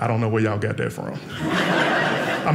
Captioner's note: audience laughing